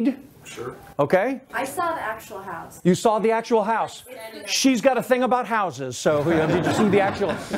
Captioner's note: laughter